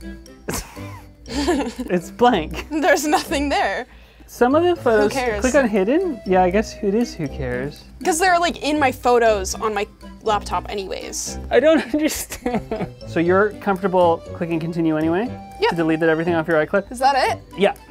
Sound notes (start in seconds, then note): 0.5 laughs